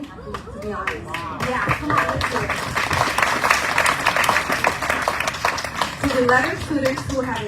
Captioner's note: audience cheering, applauding